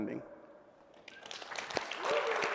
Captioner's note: applause